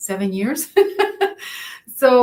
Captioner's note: laughs